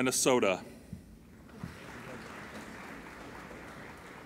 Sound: applauding

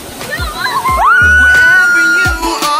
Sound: screaming

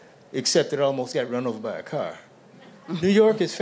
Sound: chuckling

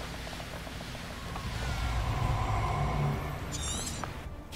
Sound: ominous sounds

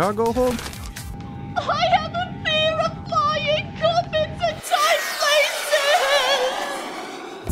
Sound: weeping

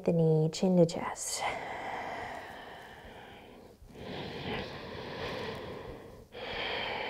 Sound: deep breathing

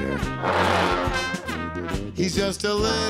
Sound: loud honking

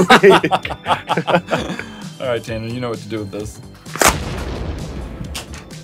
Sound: laughsssss

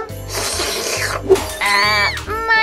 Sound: slurps

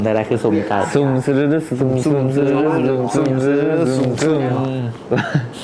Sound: chanting

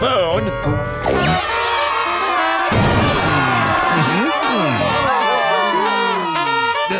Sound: cheering

